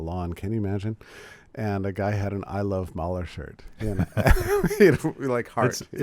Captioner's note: laughs